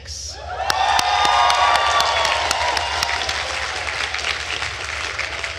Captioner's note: attendees cheering and applauding